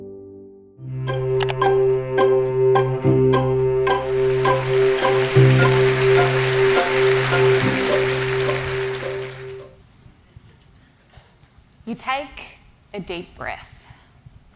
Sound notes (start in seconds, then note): 1.0 bright music; 1.4 mouse clicking; 4.9 applause